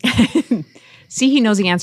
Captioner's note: panel laughing